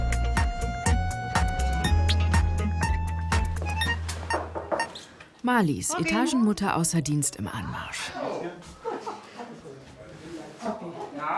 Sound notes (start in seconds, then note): 3.6 knock